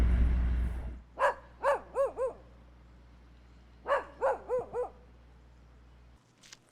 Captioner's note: dog barking